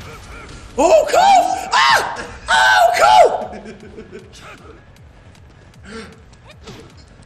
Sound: laugh

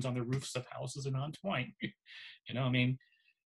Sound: laughs

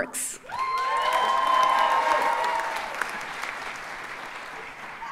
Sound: audience cheers and applauds

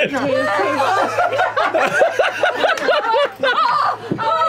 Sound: laughing; laughter

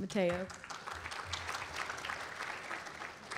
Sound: applause

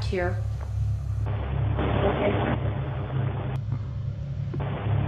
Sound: static hissing

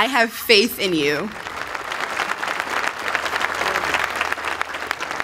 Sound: applause

